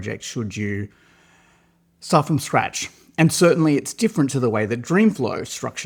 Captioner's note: inhales deeply